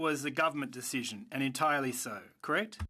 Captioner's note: speaking French